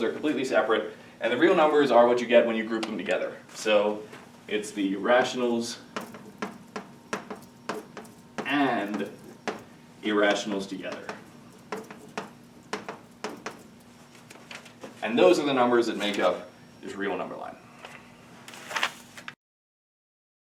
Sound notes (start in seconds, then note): 7.1 chalk clicking; 12.7 chalk clicking